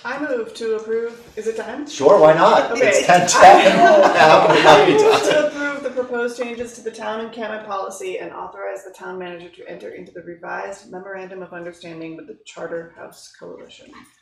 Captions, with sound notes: I move to approve, is it 10? Sure, why not? It's 10-10. (laughing) I move to approve the proposed changes to the town and canon policy and authorize the town manager to enter into the revised memorandum of understanding the charter house coalition.